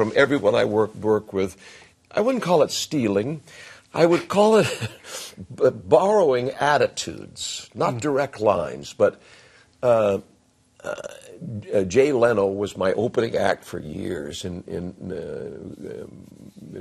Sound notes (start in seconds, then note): 4.6 chuckles